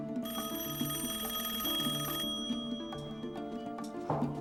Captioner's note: rings